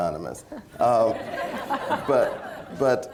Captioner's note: laughter